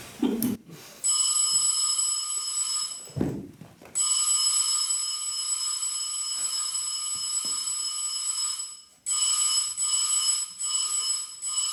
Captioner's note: an obnoxious electric bell rings